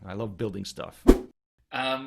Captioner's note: whoosh